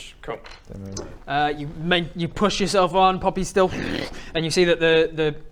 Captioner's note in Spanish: hwrgggh